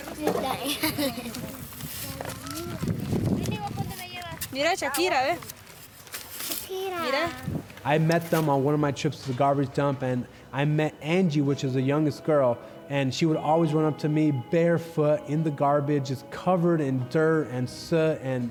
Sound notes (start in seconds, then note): 0.1 laughing; 7.0 speaks in foreign language